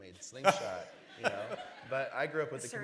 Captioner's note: laughter